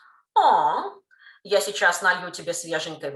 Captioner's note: Russian